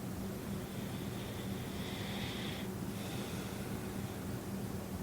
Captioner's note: breathing noisily